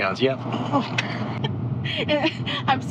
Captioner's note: chuckling